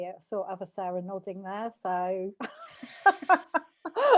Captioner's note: laughs